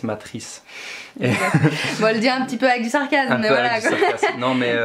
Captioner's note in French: rires